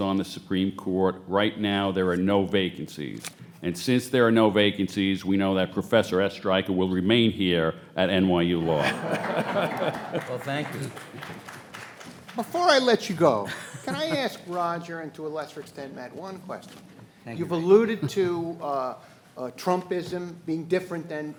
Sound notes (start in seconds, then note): 8.6 panelists laughing; 8.7 audience applauding